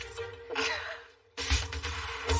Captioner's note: laughs